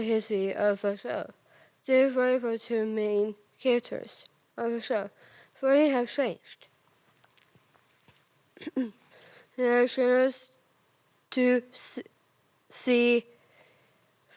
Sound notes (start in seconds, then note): 6.8 rustling; 8.6 clears throat; 13.3 soft breathing